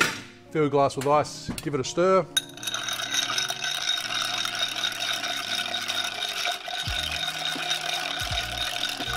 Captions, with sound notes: Fill glass with ice, give it a stir. (stirring)